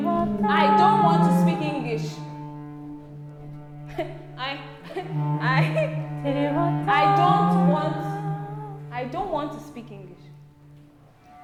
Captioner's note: laughter